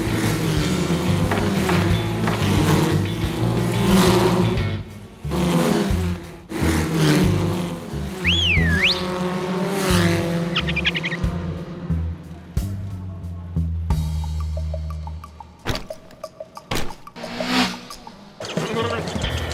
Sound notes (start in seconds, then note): 0.3 carts buzzing; 8.2 whistles; 17.1 cart zooms